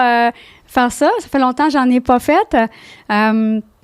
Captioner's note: in french